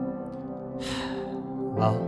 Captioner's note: sigh